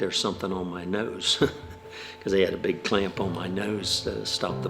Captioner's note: laughs